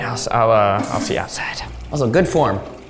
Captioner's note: water flushing whooshes